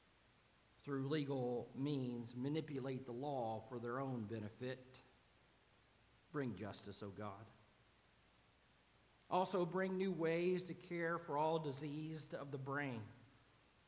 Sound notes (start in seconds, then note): none